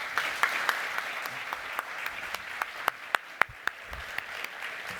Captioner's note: applause